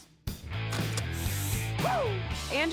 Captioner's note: sniffs